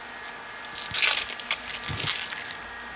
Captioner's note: tearing noises, crackling